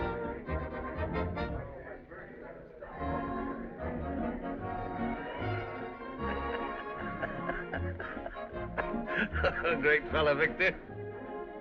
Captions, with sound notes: [ Chuckles ] Great fellow, Victor.